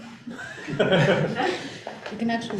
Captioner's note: laughing